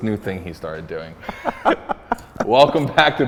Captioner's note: laughter